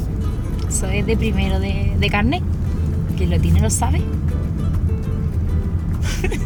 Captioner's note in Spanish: risas